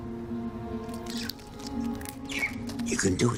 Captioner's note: gentle music; ant chirping